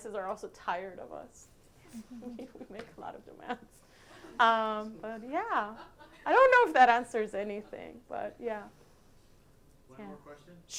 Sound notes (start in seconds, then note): 1.9 laughs